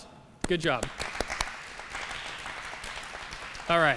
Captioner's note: applause